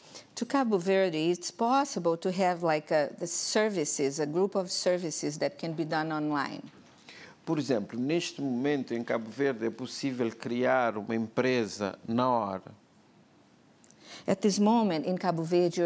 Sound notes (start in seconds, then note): 8.3 speaking portuguese